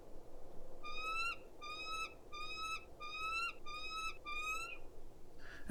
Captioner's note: bald Eagle hollaring